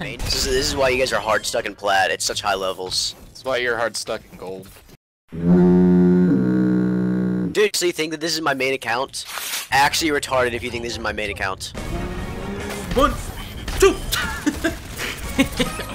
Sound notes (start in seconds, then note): 5.3 cartoon Foghorn Sound Effect; 14.1 laughs